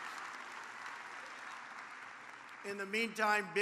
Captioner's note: applause